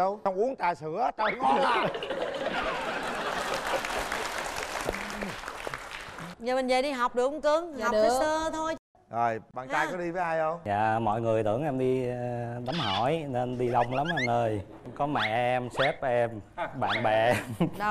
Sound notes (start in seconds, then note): 1.3 laughing; 2.0 applause